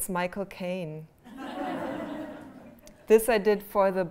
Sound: laughter

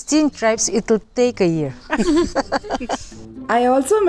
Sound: laughs

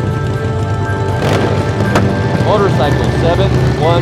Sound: motorcycle engine starting; motorcycle engine revving

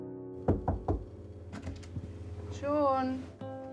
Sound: knock on door

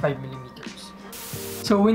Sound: static sound

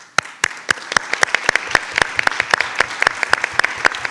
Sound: attendees applauding

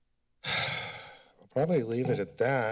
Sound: sigh

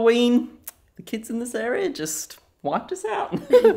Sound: laughs

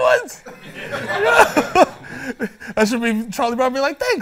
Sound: laughs

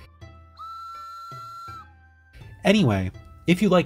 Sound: whistle noise

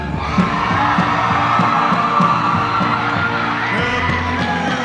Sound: audience cheering

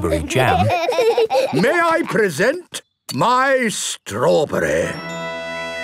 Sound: laughing

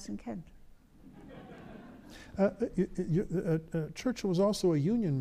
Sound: audience laughs

